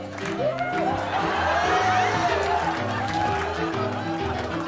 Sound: crowd laughs

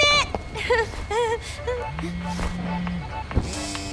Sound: cellphone vibrating; nervous laugh

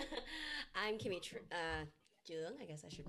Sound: laughs

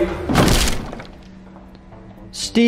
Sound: crunch

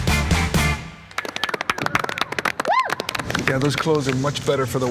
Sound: applause

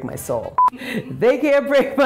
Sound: beeping

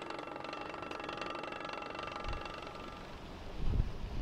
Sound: banging

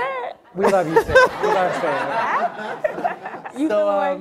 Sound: audience laughing

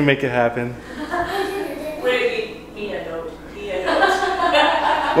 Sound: people laughing

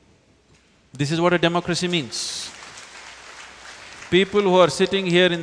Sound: applause

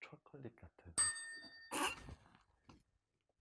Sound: chime

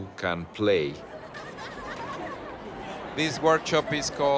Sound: laughter and conversation

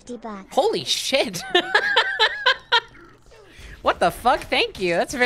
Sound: laughing

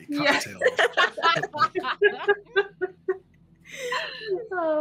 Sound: players laughing

